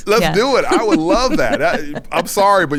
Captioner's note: laughing